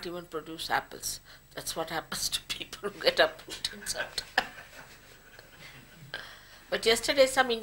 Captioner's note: all laugh